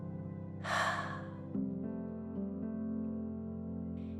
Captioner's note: soft exhaling